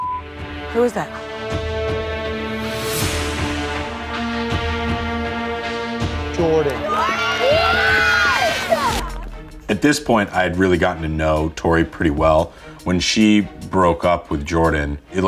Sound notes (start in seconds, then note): 2.1 dramatic music; 6.4 contestants cheering